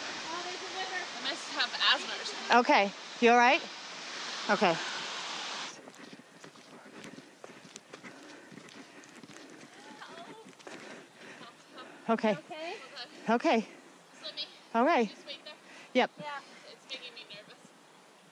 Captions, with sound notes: -Oh, there's a river. -I must have asthma or something. Okay. You all right? Okay. [Sound of footsteps] [heavy breathing] Help. -Okay. -Hold on. Okay. Just let me... just wait there. -Yep -Yeah, it's making me nervous.